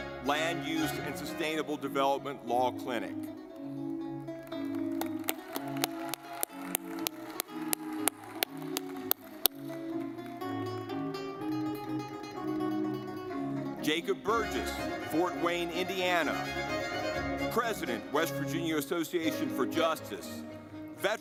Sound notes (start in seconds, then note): 3.6 lively music; 4.3 audience clapping